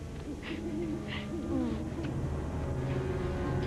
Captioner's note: giggling